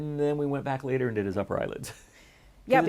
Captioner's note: chuckle